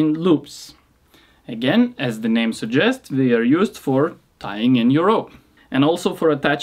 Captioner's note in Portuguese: em inglês, tie-in loops